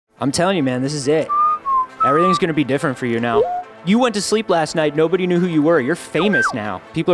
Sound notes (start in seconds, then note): 1.3 electronic whistling; 6.2 electronic whistling